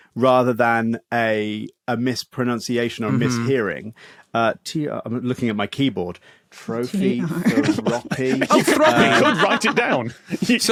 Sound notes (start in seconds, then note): 7.2 laugh